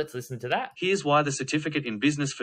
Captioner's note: voiceover